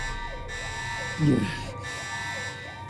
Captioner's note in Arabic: يئن